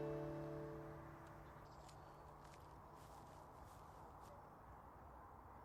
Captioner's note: river flowing gently, blackbird song